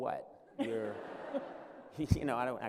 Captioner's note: laughter